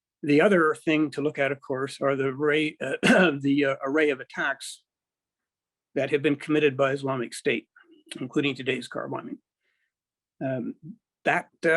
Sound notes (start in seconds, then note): 2.9 clears throat